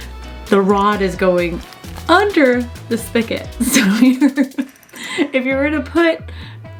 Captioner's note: loughs